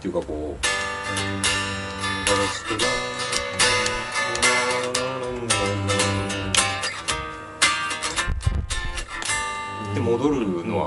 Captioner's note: humming